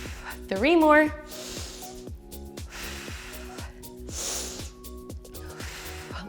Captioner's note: inhales and exhales